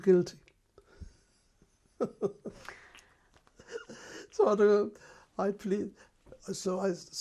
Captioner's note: laughs